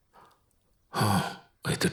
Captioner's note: exhales in relief